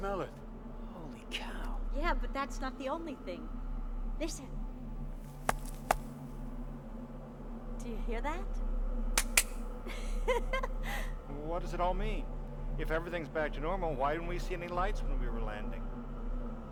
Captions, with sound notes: HOLY COW ! YEAH, BUT THAT'S NOT THE ONLY THING. LISTEN. [ Heel Clicks ] DO YOU HEAR THAT ? [ Giggling ] WELL, WHAT DOES IT ALL MEAN ? IF EVERYTHING'S BACK TO NORMAL, WHY DIDN'T WE SEE ANY LIGHTS WHEN WE WERE LANDING ?